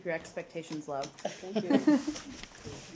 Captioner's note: laughter